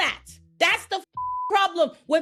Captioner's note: beep